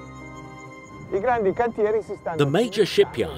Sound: speaks in foreign language

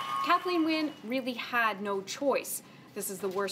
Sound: applause

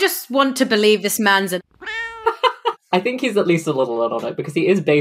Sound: laughs

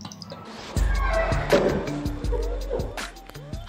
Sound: squeaky door

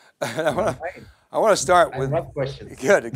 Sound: chuckles

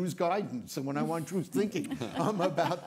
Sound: panelists laughing

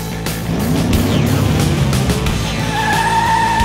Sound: engines revving; brakes squealing

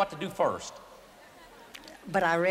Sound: audience laughter

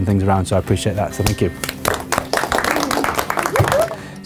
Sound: clapping

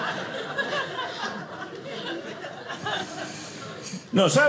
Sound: audience laughing

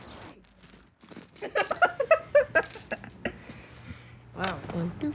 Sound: woman laughs

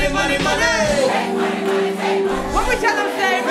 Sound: crowd

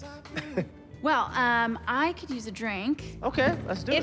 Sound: Rufus chuckles

